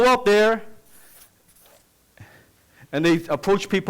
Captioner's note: scribbling sound